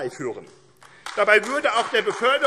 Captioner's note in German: Beifall AfD